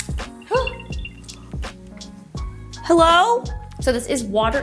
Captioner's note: machine beeps